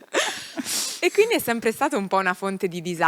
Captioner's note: laughing